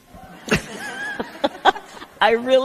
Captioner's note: laughs